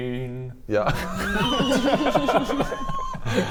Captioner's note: surprised laugher